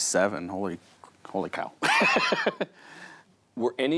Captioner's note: laughs